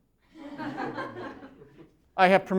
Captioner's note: laughter